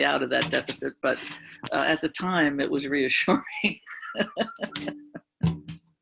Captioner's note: laughs